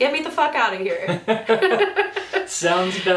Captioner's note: both laugh